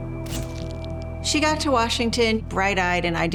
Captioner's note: shutter clicks